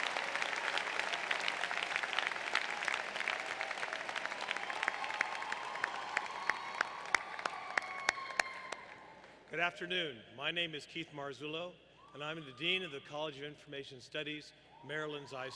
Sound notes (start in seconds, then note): 2.9 applause